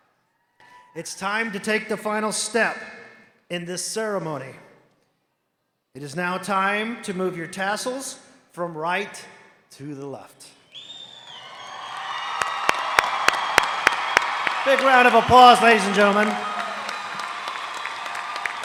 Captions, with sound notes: it's time to take the final step in this ceremony. It is now time to move your tassels from right to the left. (cheering) (applause) A big round of applause, ladies and gentlemen.